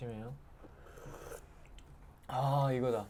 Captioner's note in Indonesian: Sluurp